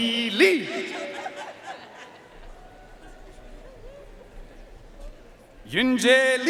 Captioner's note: audience cheering and applauding